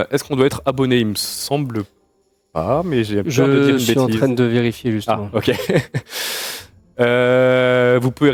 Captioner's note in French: rires